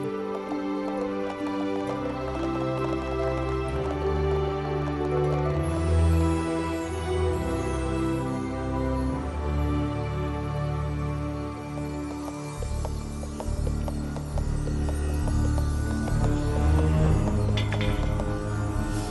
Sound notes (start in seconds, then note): 17.5 clatter